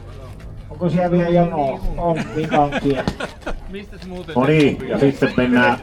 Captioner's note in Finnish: naurua